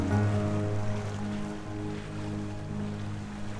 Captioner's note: water sounds